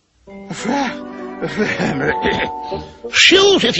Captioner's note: stammering